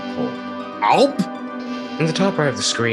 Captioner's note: swallowing noises incomprehensible to the human mind